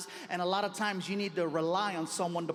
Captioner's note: none